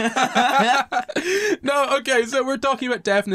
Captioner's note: laughter